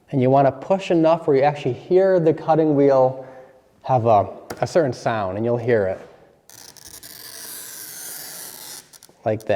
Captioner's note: glass cutting